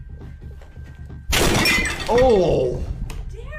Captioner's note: table clatters